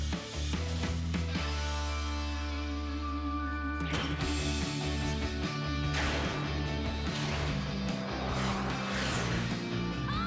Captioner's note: screech